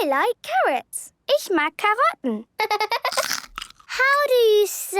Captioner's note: laughter